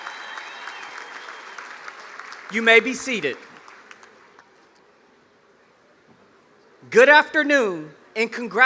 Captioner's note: applause